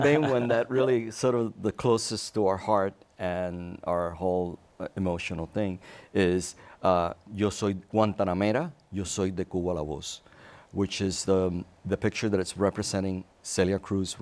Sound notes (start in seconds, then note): 8.7 speaks Spanish